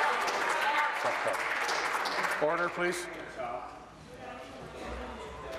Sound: applause

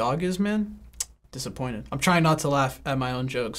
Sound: smacks lips

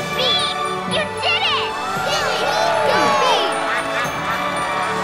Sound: cheering

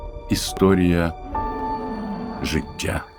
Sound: dinosaur roars

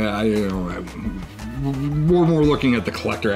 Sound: man grumbling

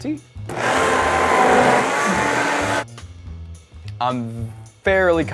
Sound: blender whirring

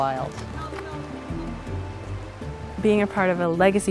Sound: indistinct chatter

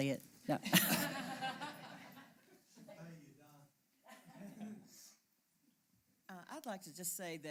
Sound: laugh

